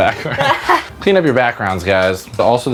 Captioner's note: laughing